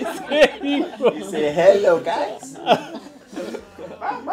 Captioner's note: laughs